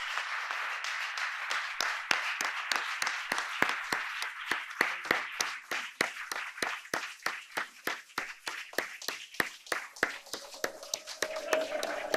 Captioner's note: applause